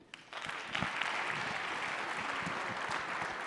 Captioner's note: applause